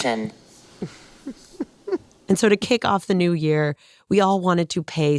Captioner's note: laughs